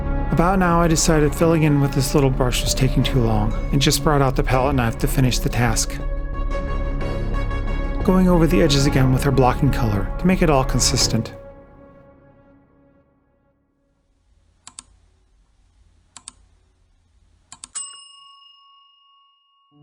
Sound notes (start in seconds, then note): 14.6 mouse Click; 16.1 mouse Click; 17.7 bell Rings